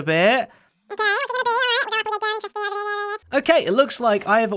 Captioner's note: high pitched sped up voice